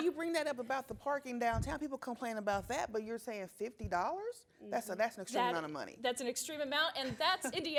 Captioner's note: laughter